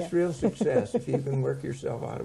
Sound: laughing

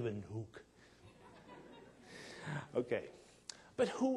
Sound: audience laughing

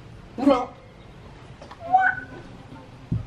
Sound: babbling

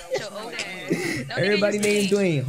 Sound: laughing

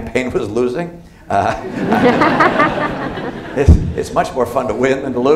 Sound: laughter

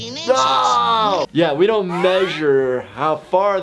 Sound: screams

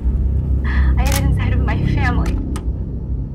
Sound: camera snapping

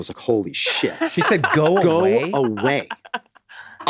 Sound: Megan cackling

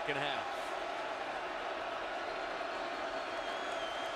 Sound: crowd cheering

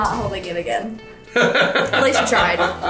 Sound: dad laughing

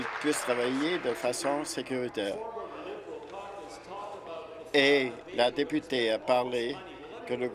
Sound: applause

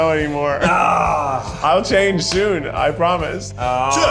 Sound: Ned grunts; laughs

